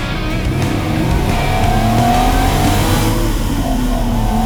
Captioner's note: car revving; upbeat music